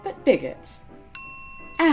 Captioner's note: ding